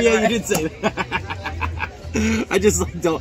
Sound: laughs

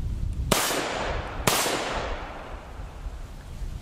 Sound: gunshots

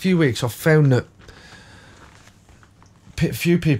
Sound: silence

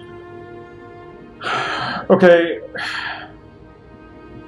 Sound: sighs; sighs again

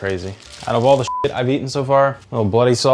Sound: beep

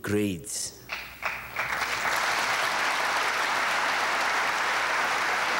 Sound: audience applauding

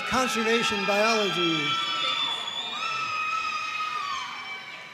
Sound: audience cheering

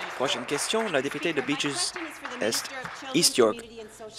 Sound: applause

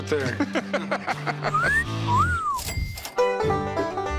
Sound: laughs; whistle sound effect

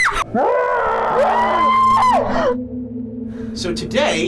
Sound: screams; screams in slow-mo

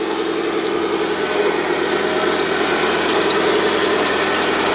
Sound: machine engines roaring

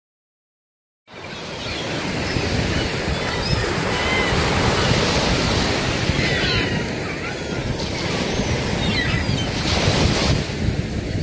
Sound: sound of seagulls

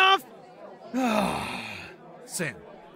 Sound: sighs

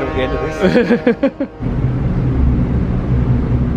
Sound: laughs

